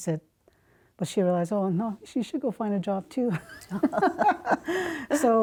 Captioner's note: they laugh